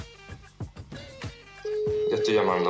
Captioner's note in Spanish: Tono de llamada